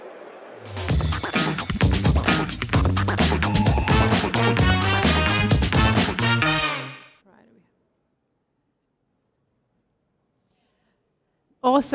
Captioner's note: applause